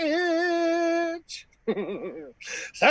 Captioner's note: laughing